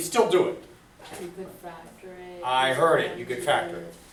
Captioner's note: voiceover